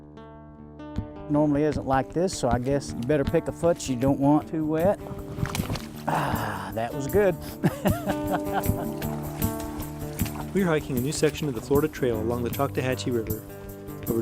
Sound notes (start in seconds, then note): 5.8 splash; 8.8 laughs